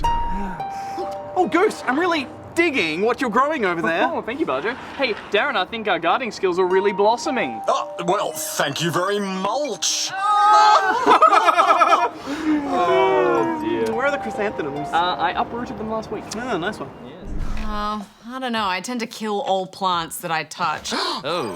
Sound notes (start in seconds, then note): 10.4 all laugh; 11.8 all sigh